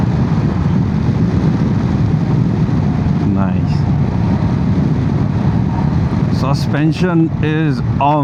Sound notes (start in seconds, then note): 0.0 engine purring and wind noise; 4.2 wind noise